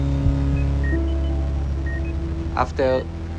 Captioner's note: machine beeps